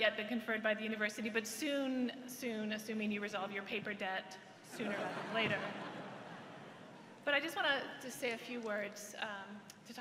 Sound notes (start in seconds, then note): 4.8 laughter